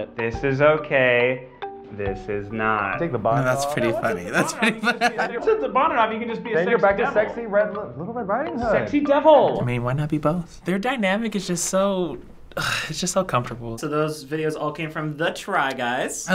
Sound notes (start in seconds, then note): 3.3 laughs; 12.1 sighs